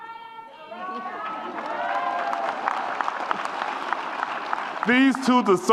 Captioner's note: audience applauds and cheers